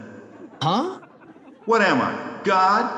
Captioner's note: audience laughing